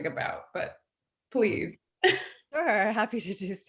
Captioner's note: chuckles